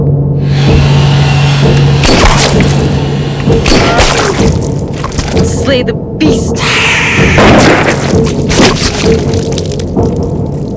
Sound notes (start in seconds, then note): 2.0 gun fires; 6.8 Gaunt Man hisses; 7.3 gun fires